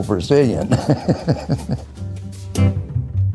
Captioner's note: laughs